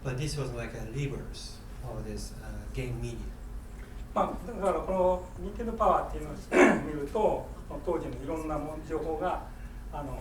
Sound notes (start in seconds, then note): 4.2 speaking in foreign language